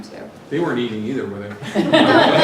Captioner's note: laugh